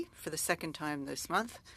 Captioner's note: speaking French